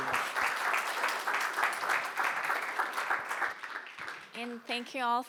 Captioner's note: audience applauds